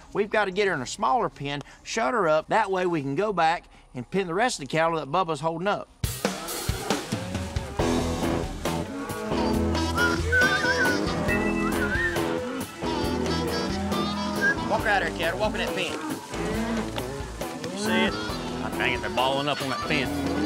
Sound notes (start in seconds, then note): 11.2 whistling softly; 16.6 mooing